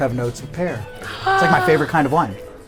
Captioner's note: gasps